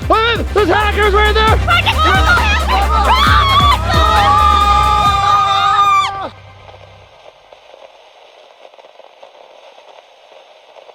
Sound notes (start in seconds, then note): 5.3 screaming; 8.0 static hissing